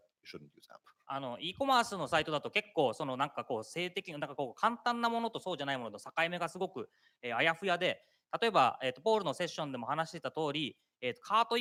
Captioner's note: speaking japanese